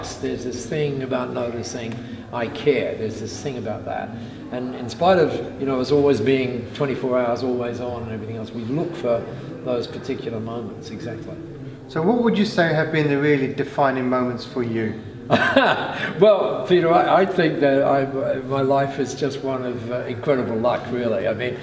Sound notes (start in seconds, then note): 15.2 laughing